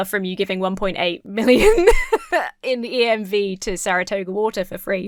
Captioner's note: laughs